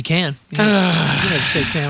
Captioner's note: sighing